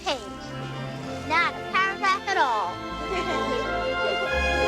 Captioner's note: laughs